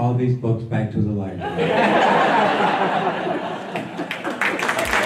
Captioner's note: laughter; applause